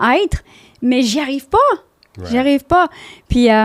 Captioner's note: in french